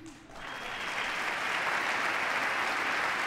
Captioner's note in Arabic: تصفيق